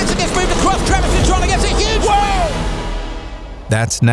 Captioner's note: announcers commentating